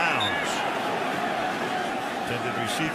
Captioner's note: whistle blowing